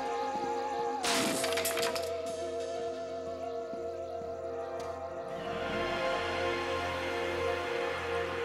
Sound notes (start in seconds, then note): 1.0 cracking